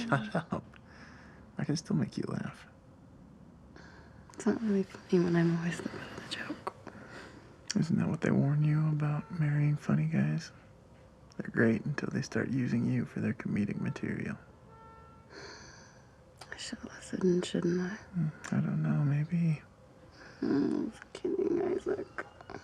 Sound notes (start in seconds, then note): 15.3 sighs